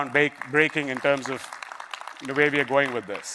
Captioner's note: applause